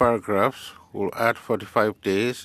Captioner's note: speaking FRENCH